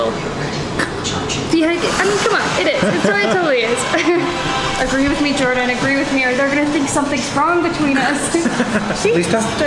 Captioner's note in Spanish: se ríe